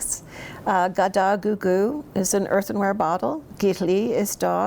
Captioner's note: speaks in Cherokee